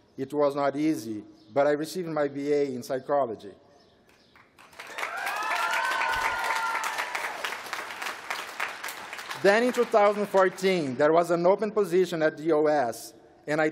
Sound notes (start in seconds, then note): 4.3 applause